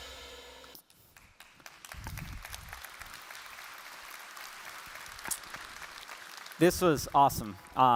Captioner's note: applause